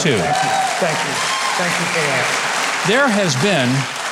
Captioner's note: audience applauding